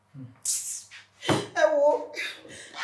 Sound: kisses lips

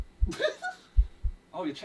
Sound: KSI laughing; heart beating

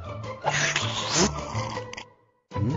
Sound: slurps coffee

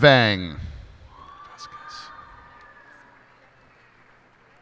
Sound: cheers and applause

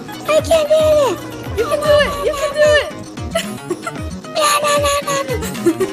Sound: babbling excitedly

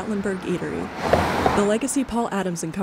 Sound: car passing

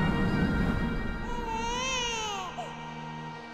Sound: baby crying

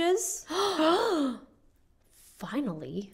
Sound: gasps

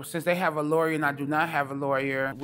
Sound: none

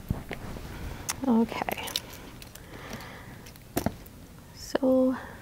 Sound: wires rustle

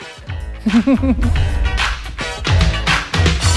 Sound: chuckles softly

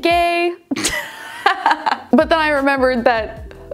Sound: laughs

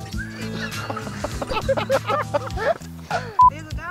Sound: laughs

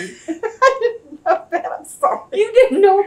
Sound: laughs

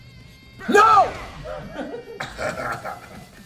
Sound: laugh

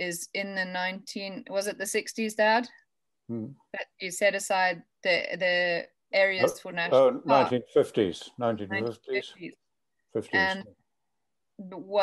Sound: hm

